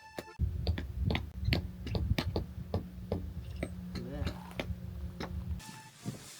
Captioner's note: tap tap tap tap tap... tap tap